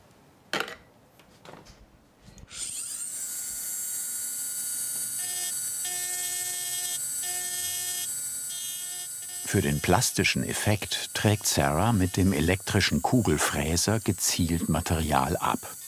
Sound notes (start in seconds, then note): 2.5 high-pitched whirring; 5.2 lower whirring when milling